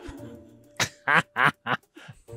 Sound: cackles into character

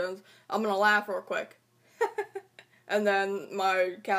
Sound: laughing

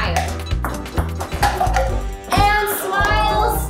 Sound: ping pong balls bounce

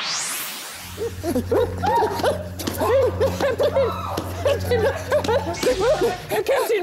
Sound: sounds of general distress

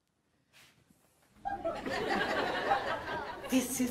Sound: audience laughs

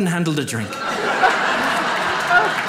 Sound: audience laughs

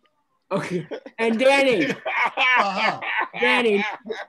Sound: laughs

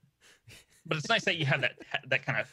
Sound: laughing

